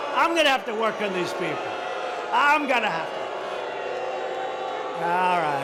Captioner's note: boos continue